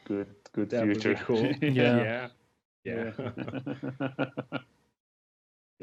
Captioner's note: laughter